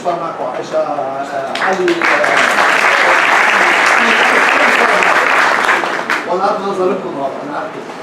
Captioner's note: applaude